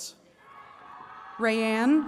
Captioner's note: attendees cheering